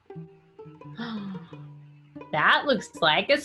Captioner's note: gasps